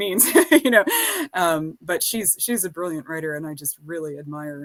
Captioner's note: laughs